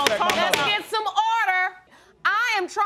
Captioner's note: gavel pounding